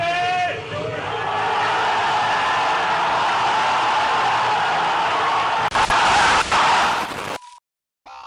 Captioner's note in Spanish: Audiencia grita eufórica